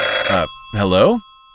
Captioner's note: ringing